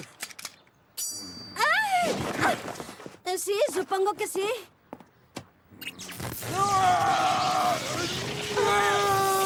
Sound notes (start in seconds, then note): 6.4 screaming